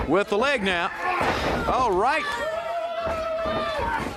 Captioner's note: crowd chatter